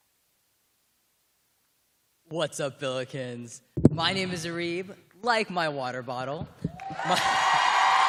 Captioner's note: cheers and applause